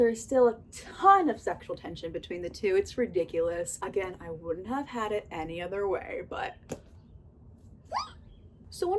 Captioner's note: squeal